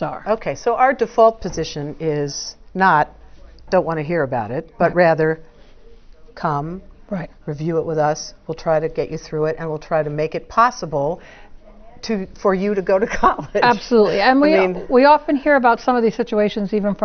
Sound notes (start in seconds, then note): 12.6 laugh